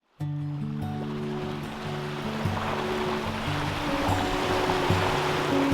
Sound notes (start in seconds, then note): 0.1 ocean waves; 0.2 slow music